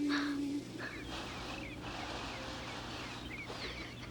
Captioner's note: Miranda whimpering